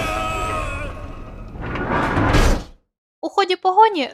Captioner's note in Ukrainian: крик; стогін